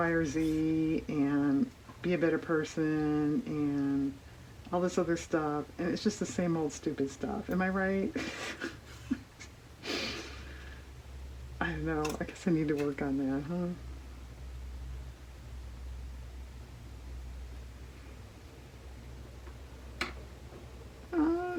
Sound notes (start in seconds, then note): 8.1 laughs